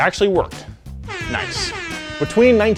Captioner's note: siren blares